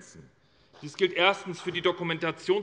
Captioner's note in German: Beifall bei der SPD